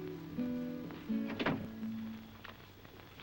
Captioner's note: door shuts